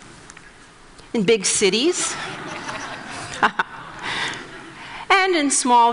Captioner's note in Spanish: Risas